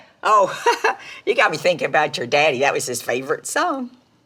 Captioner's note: laughs